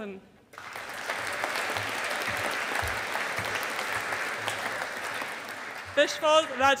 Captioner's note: audience applauding